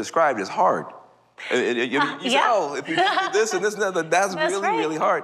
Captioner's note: laughs